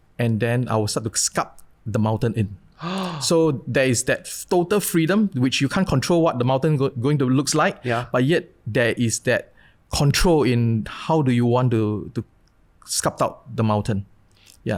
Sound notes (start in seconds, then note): 2.8 gasps